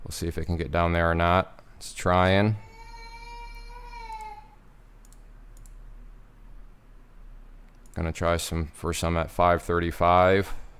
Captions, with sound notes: We'll see if it can get down or not. It's trying. (baby crying) Gonna try for some at 5.35.